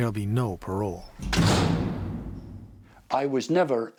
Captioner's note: cell door slams